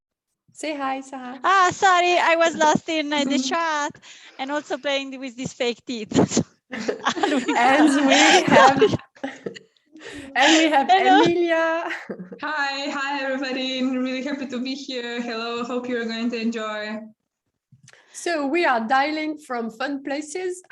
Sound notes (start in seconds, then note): 6.7 laughter; 10.0 laughs